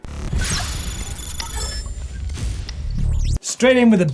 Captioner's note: electronic buzzing